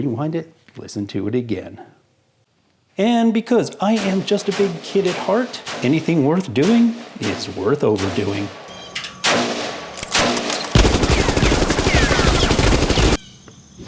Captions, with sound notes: rewind it, listen to it again. And because I am just a big kid at heart, anything worth doing, is worth overdoing. (gunshots)